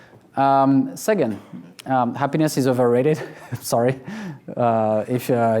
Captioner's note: laughs